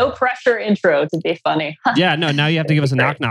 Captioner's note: laughs